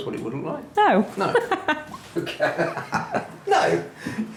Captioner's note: laughs